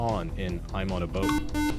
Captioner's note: beep